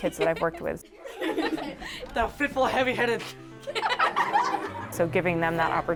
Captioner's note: students trying insults and laughter